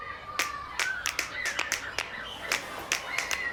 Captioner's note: clapping